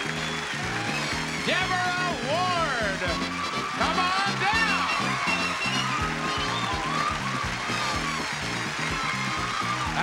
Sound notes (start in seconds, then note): 4.4 audience applauds; 6.6 theme music continues